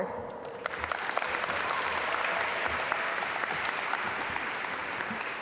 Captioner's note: audience applaud